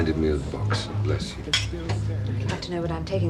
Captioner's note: glasses clinking